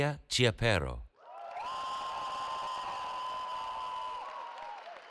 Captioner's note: cheering